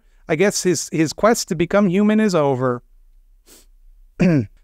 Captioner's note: sniffs and clears throat